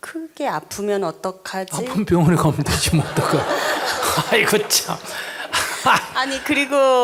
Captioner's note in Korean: 청중 웃음